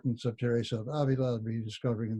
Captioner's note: speaking in a foreign language